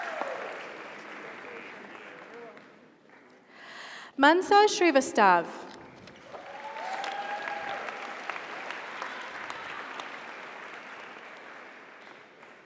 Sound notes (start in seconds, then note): 6.1 audience applauds; 6.2 audience cheers